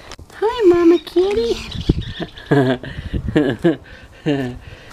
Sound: chuckles

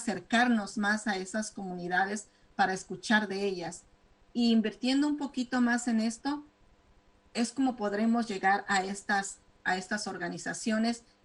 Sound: speaking spanish

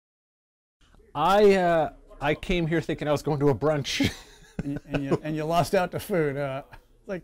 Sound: laughter

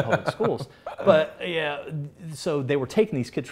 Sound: laughs

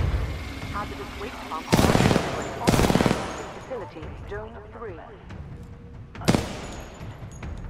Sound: radio

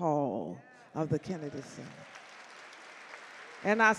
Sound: audience clap

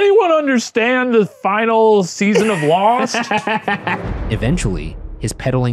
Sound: laughing

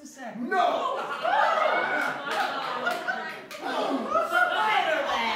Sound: laughter

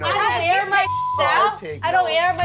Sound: beep

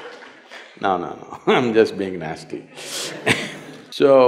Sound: laughter/Applause; laughs

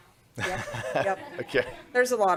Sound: laughter

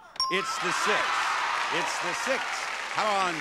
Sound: audience cheering

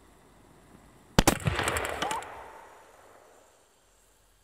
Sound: explosion, screams, echoes

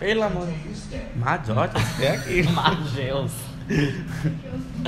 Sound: laughs at how crazy WoW's subtitles are

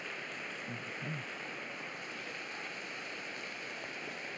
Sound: applause

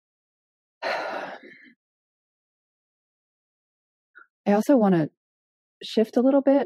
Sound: sighing

